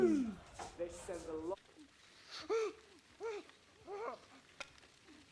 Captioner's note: man whimpers